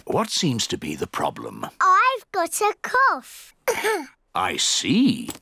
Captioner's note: coughs